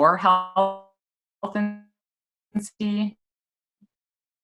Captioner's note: audio drops out